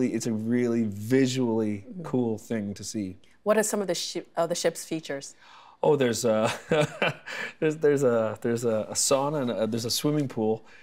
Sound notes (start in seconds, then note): 6.5 laughing